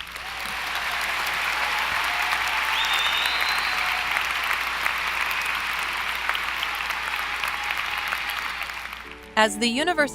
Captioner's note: applause; background Music